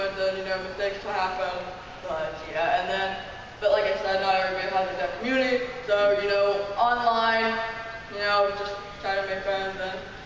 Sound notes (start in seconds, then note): none